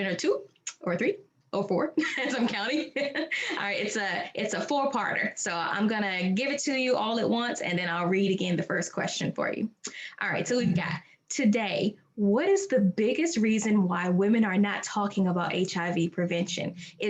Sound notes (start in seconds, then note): 2.0 both laughing